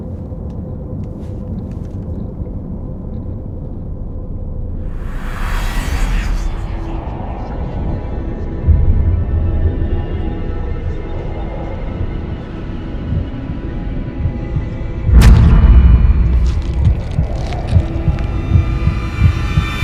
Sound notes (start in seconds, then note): 13.0 учащенное серцебиение